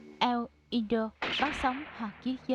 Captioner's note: gunshot